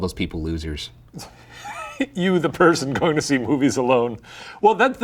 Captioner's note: laughs